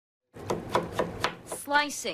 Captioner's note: knife thudding